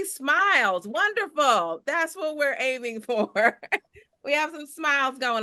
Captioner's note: chuckles